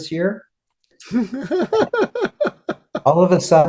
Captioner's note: laughing